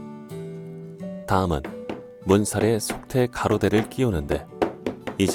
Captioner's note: hammering sound